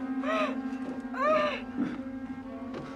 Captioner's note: Langkah kaki